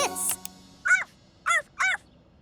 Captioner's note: barking